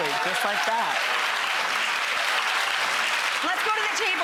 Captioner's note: audience applauds